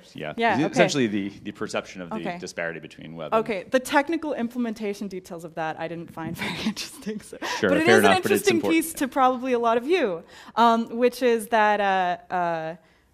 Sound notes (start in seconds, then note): 7.5 laugh